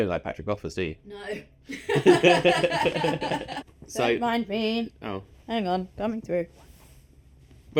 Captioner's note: laughs